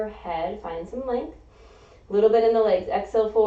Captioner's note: inhaling